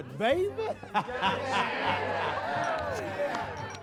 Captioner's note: laughing